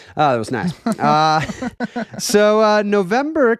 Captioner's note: laughing